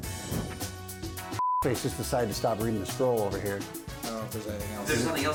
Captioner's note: beep